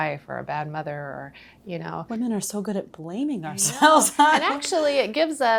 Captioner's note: laughing